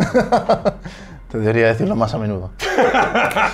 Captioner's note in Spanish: hahahah